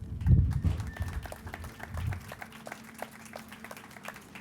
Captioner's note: crowd applauding